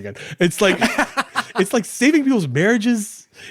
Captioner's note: laughing